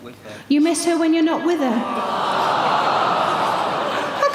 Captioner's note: audience awws